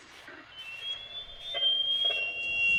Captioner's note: alarm